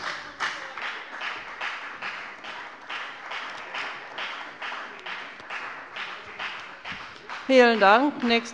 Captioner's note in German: Beifall bei der FDP